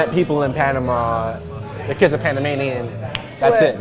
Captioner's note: claps hands